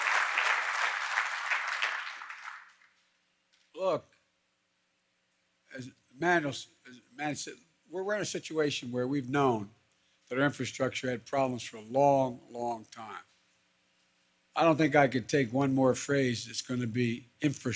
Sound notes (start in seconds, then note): 0.0 applause